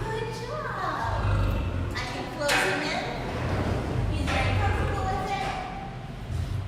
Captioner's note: lion growl; door closing